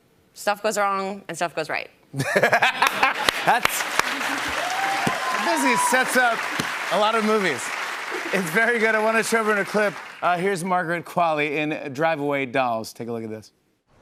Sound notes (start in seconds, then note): 2.6 laughter, cheers, applause